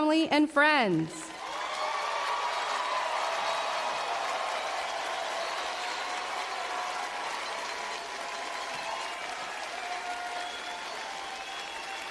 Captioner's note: applause